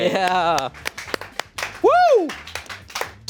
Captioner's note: audience members clapping